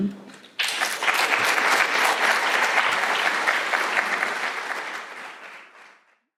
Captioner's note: applause